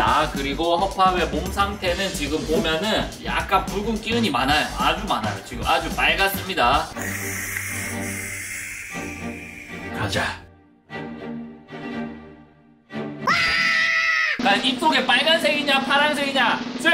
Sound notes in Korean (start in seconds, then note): 7.0 심호흡